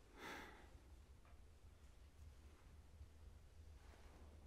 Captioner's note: Jonathan sighs